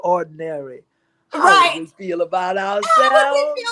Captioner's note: laughter